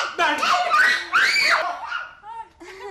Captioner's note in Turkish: Çığlık sesi; Gülme sesleri